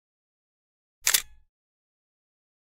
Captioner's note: camera shutter clicks